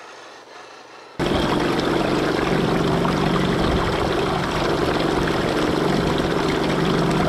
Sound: engine roars; water splashes

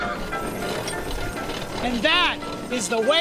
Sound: engine noise

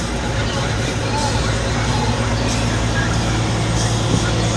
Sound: CB Radio Talking

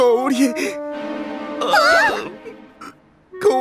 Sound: Tayo and Lani gasp; Louis cries

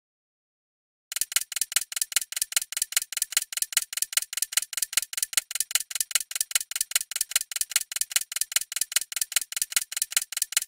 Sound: sound of ticking timer

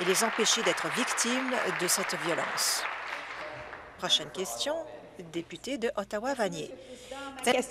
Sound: applause

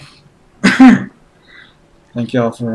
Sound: coughs

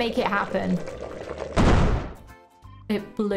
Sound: loud bang

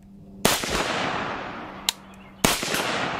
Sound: gunshots

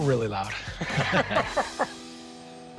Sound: laughter

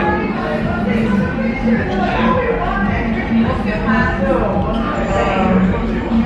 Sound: bar chatter ambience echoes

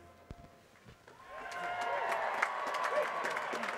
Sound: applause

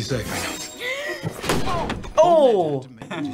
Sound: Charlotte gasps

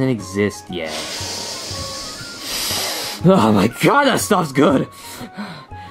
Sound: sniffs

